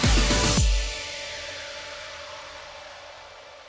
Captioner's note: upbeat music; woosh